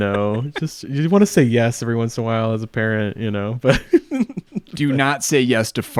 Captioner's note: laughs